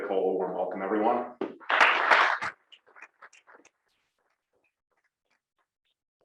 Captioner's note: applause